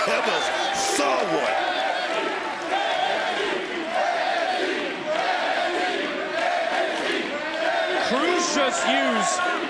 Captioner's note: crowd chants "nxt"